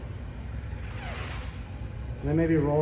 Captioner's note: suit squeaking